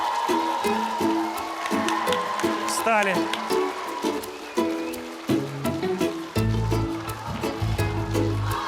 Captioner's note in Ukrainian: оплески